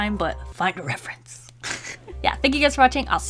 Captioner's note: giggles